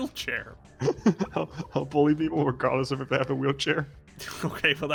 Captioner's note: laughs